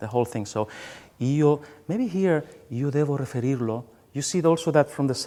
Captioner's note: speaks in foreign language